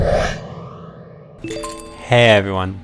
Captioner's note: chimes